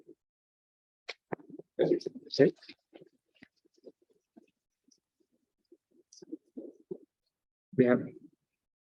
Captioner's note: silence